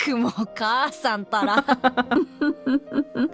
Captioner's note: chuckles